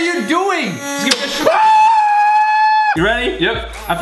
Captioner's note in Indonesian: jeritan